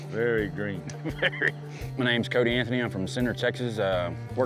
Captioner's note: chuckles